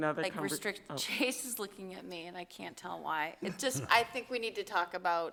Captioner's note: chuckle